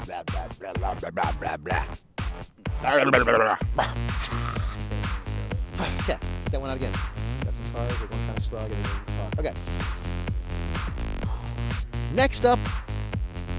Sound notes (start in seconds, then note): 0.0 man jabbering; 11.2 man sighing